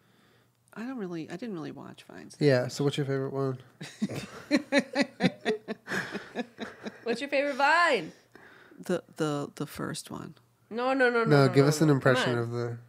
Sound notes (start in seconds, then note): 3.8 laughs